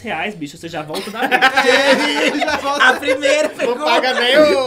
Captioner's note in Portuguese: risos